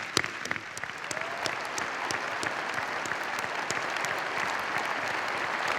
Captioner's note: applause